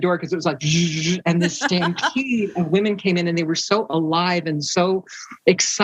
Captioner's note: she makes a whizzing sound